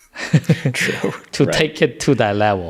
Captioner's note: laughter